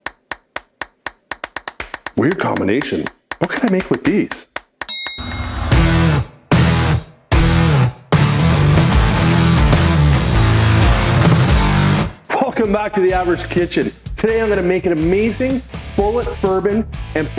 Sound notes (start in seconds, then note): 0.0 upbeat music; 4.9 light bulb dinging; 5.9 intense music